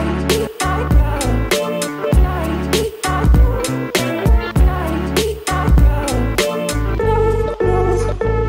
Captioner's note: laugh